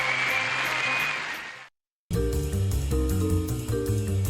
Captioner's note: cheering and applause